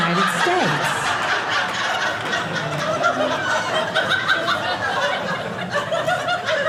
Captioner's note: audience laughing